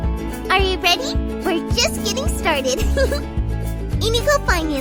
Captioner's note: giggle